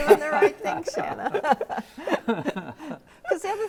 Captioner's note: all laugh